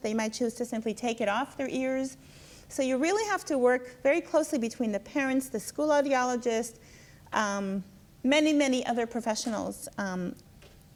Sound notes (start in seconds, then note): none